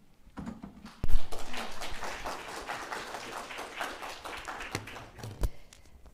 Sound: applause

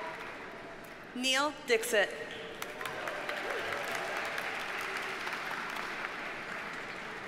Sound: audience cheers and applauds

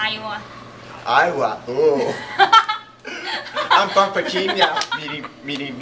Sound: laughing

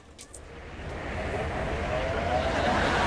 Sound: blowing

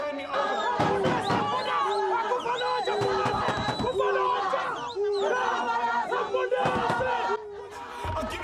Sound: cheering and banging on door

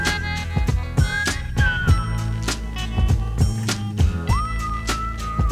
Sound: whistling

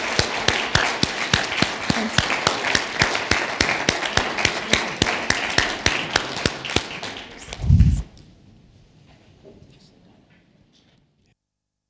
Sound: applause

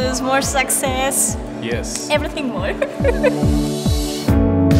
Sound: giggles

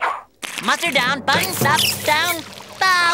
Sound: none

